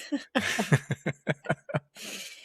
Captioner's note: laughing